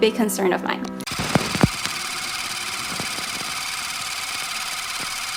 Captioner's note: projector clicking